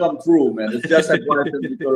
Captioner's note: laughs